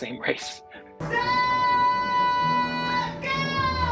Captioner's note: crowd cheers